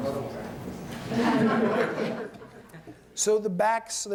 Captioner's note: laughter